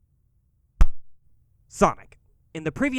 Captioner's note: clap